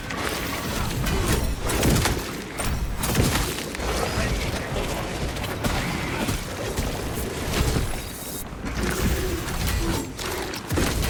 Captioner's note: gunfire